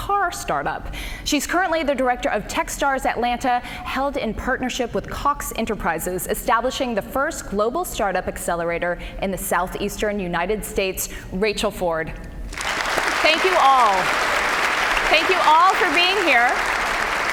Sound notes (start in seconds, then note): 12.5 applause